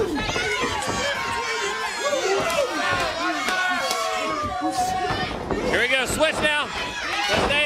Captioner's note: crowd cheering